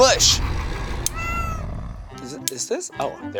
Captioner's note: cat meows